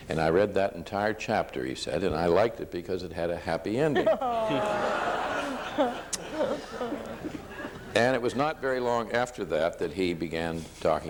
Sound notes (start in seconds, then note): 3.9 audience laughs